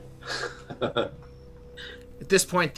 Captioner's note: laughter